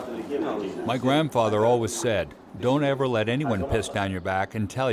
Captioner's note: voiceover